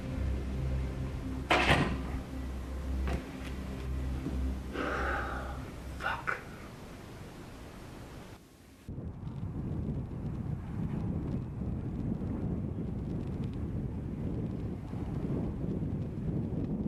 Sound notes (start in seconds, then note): 4.6 sighs